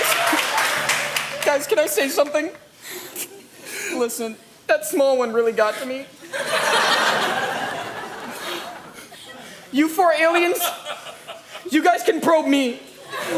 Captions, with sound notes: - Guys? Guys can I say something? Listen. That small one really got to me. (crowd laughing) You four aliens, you guys can probe me!